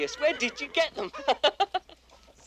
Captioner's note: laughs